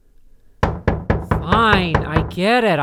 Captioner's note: someone knocks on his door again